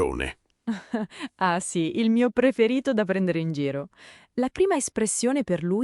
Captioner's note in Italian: Haha